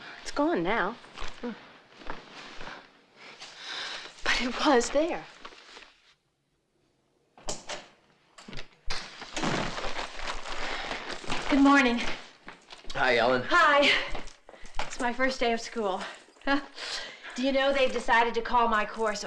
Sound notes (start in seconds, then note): 9.1 door slamming